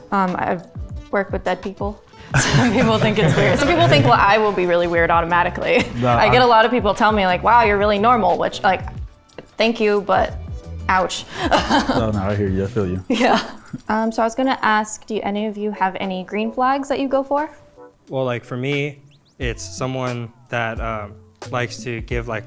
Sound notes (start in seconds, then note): 2.2 all laughing; 11.2 laughs